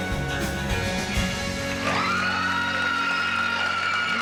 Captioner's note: cheering and applause; laughter